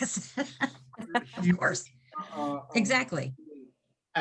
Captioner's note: laughing